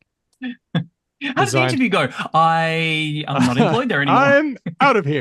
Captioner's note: laughs